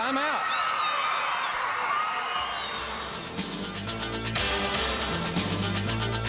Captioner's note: crowd cheering